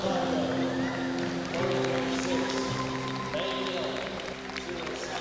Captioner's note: cheers and applause